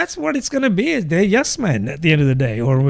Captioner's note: uh